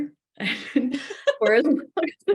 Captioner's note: laughter